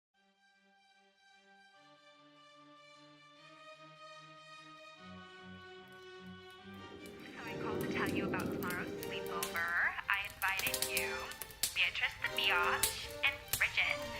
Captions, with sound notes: (Fireplace crackles in background) (Cynthia on speakerphone) I invited you, Beatrice the Beyotch, and Bridgit.